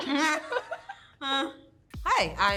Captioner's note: laughing